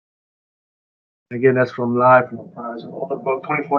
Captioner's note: talks quietly